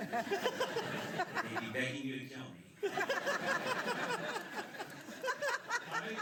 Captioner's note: laughter